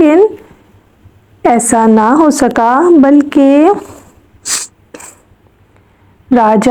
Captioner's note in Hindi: नाक से की जाने वाली आवाज़